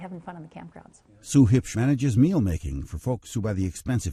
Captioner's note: voiceover